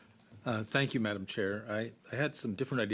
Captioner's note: speaking French